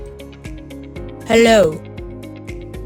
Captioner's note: device speaks